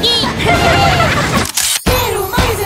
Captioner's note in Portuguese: Risos